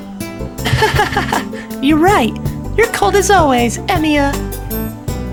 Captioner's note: laughter